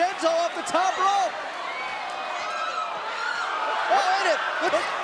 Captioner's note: crowd cheering